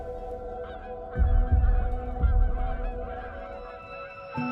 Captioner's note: geese honking